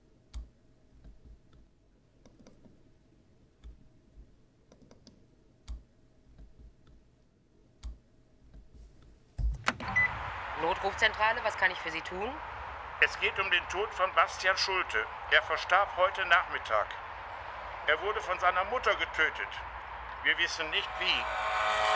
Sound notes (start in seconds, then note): 6.8 recording of emergency call